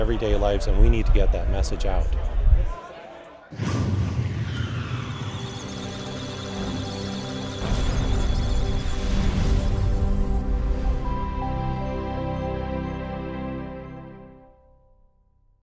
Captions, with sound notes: everyday lives and we need to get that message out. (Electronic Sounds of Data) (Musical Tones)